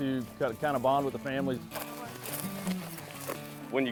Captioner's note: foliage rustles